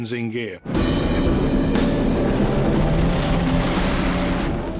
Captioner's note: boat engine roars